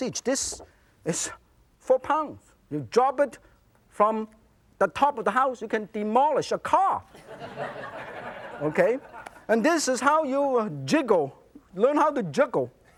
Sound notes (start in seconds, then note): 7.2 audience laughs